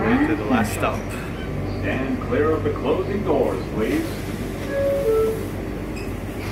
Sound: ding dong

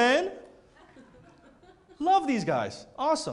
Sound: laughter

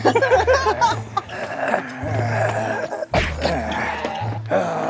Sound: happy laughter; rushed footsteps

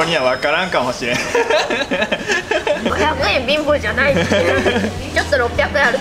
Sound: laughs

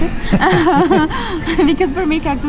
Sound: laughing

